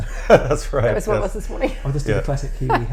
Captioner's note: laughs